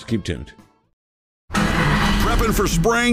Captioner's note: engine roaring